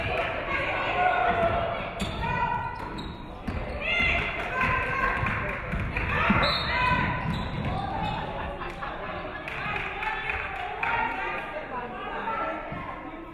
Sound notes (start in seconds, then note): 6.3 referee whistles; 9.3 audience clapping